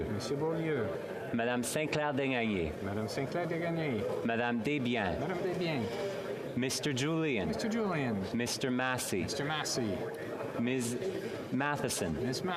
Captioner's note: speaking French